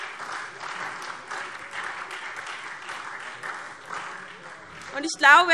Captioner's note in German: Beifall SPD, Freie Demokraten und DIE LINKE